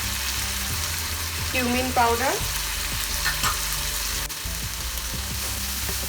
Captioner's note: oil sizzling